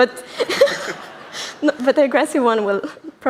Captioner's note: laughter